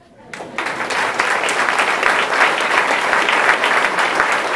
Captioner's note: audience applauding